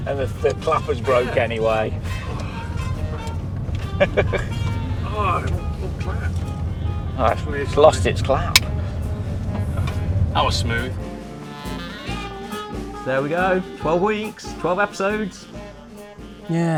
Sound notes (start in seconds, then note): 4.0 chuckles; 8.9 clapperboard clatters; 11.7 playful music continues